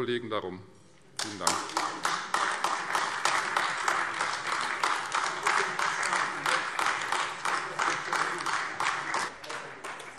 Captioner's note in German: Beifall Freie Demokraten und AfD